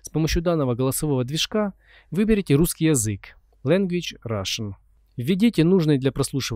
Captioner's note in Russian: Language – Russian